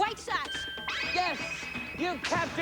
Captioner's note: bell rings